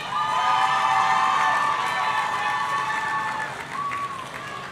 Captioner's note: audience cheering